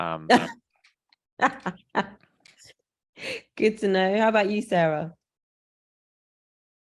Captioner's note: laugh